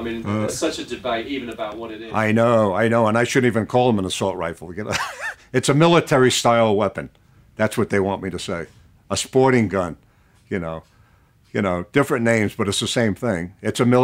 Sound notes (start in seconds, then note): 4.9 chuckles